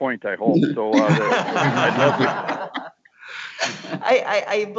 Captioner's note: laughing